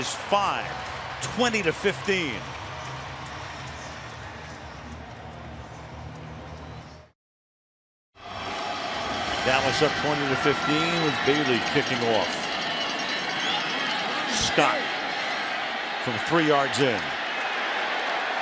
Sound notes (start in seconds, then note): 2.8 cheering